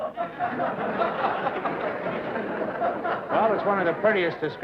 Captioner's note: laughter